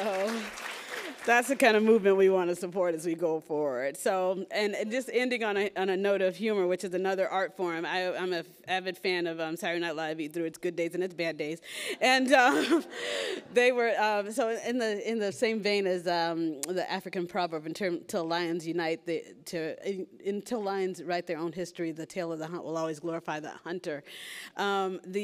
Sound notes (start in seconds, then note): 13.7 laughs